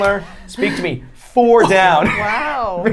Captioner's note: laughing